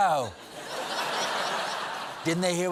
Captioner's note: laughter